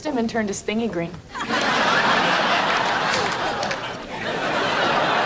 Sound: audience laughing

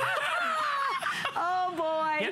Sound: laughter

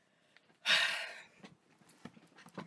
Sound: exhaling

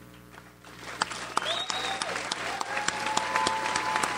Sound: audience applauds

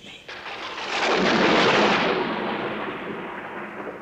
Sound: thunder rumbling

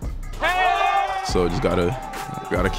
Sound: crowd cheering

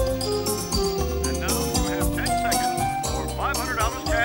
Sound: voiceover

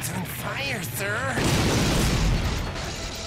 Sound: exploding

